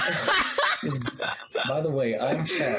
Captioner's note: laughs